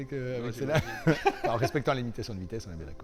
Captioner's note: laughter